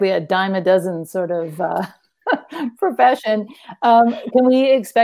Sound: laughs

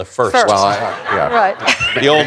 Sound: laughter

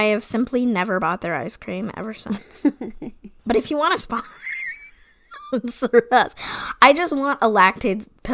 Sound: wheeze laughs

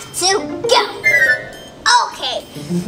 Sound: magical sound

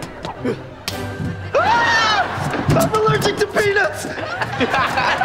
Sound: screaming; laughing

